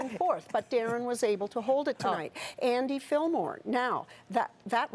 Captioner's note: laughter